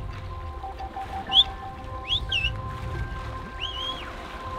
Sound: whistling

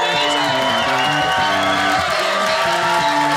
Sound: audience cheers

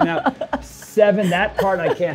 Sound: laughs

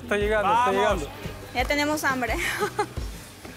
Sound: laughs

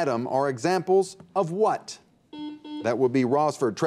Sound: buzzer beeps

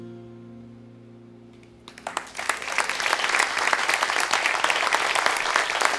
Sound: cheers and applause

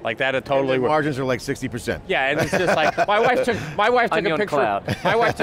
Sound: laughs

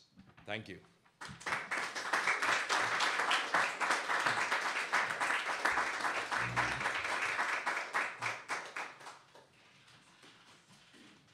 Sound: applause

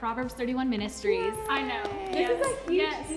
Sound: clapping

